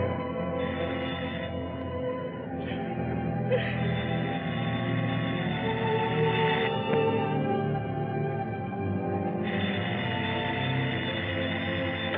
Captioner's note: phone rings